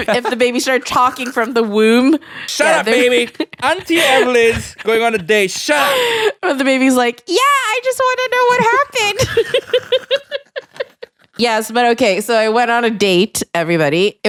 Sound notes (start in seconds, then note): 3.3 chuckles; 8.4 laughing